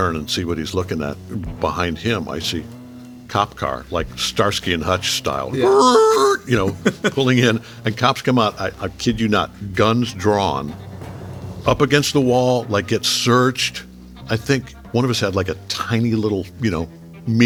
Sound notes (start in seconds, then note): 5.5 laughing; 6.0 J.K. imitating tires screeching